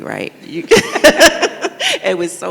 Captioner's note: both laugh